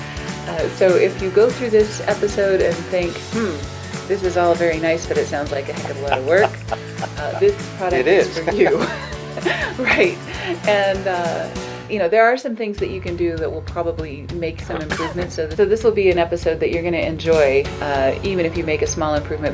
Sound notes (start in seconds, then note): 5.7 laughs; 10.1 laughs